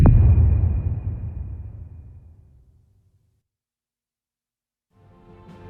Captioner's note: dramatic sound